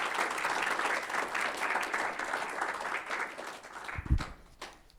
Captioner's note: applause